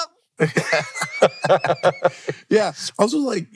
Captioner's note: both laughing